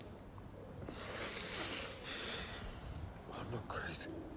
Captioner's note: breathes heavily